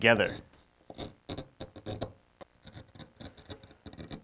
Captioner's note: wood scrapes